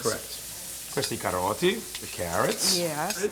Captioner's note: speaking Italian